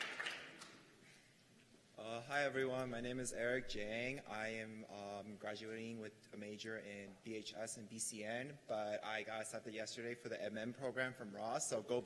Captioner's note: cheers and applause